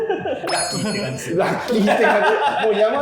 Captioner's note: laughing